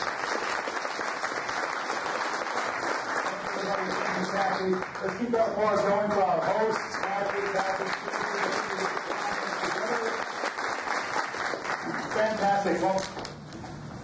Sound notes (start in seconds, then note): 0.1 audience applauds; 7.0 applause drowns out speaker